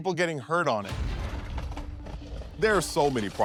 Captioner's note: bobsled rattling